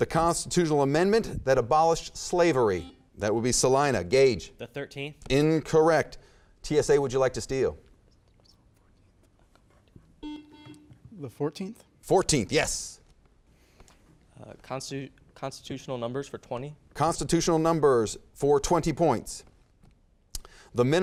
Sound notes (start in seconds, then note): 2.7 beeping; 8.2 whispering; 10.2 beeping